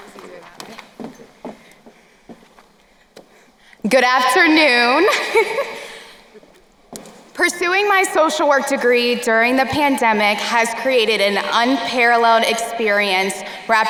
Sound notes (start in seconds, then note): 5.0 chuckles